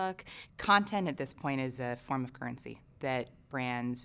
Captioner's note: voiceover